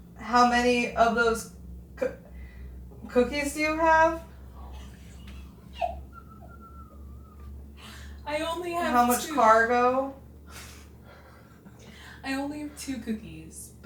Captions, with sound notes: How many of those cookies do you have? (investigators chuckle) - I only have two. - How much cargo? - I only have two cookies,